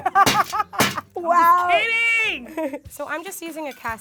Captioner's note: yelling